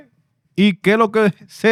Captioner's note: speaking Spanish